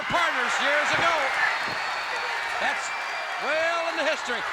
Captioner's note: crowd cheering